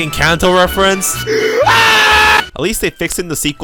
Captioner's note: scream